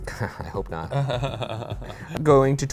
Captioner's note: chuckles